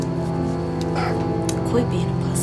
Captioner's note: solemn music continues; Tex grunts